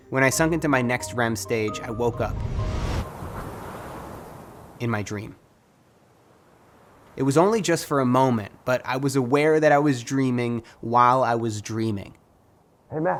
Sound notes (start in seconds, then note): 3.0 water crashing